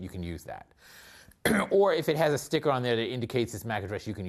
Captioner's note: cough